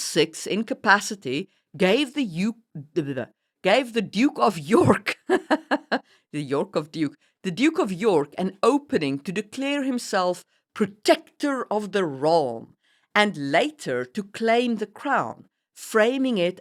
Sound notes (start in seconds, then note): 4.8 laughs